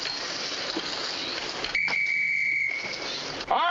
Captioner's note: blows whistle